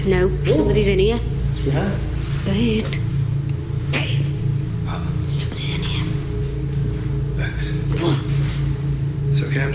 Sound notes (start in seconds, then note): 4.2 eerie hissing; 8.2 gasping